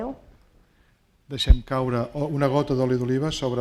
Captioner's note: speaking spanish